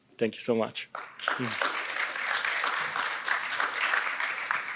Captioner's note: audience clapping